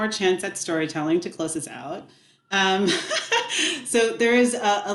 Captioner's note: laughs